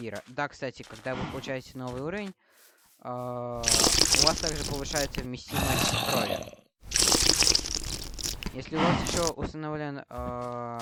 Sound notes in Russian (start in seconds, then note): 5.5 стон